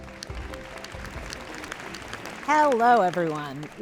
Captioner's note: audience applauding